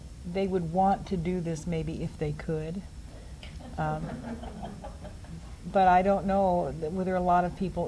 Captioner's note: laughter from audience